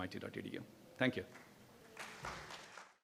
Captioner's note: applause